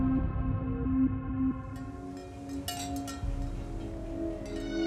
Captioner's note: wind chimes jingling; sharp string tone